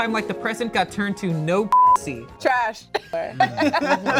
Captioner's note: beep; cast laughs